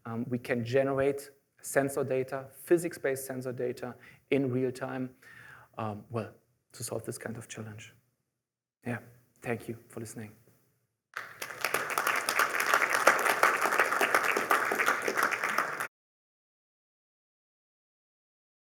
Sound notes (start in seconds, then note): 11.1 applause